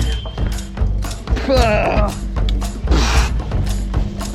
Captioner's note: laughing; groans; blows sharply